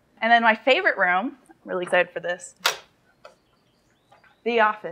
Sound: none

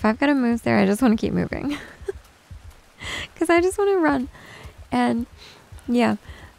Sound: giggles

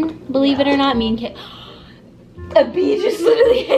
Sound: gasps

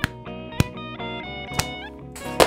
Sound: knee hits stomach; punch

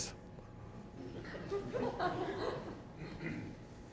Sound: laughter

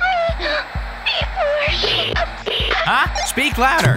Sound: static discharging; radio beeping

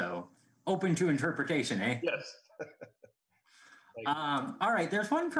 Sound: laughing

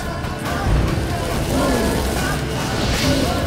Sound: flames crackle

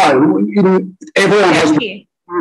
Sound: audio distorted

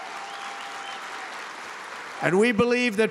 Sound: applause

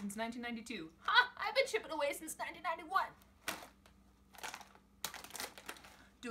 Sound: package crinkle

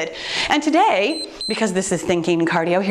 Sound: timer beeps

